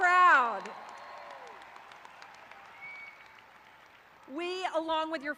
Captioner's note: graduates cheering